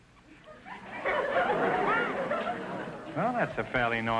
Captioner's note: audience laughter